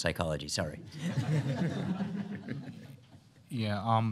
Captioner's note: laughter